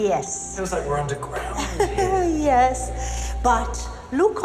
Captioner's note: laughs